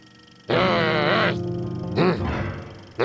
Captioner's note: growls; grunts